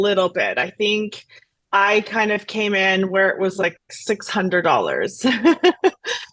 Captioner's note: laughs